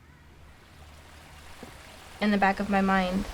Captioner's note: water flowing